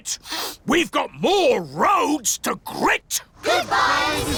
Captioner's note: sniffs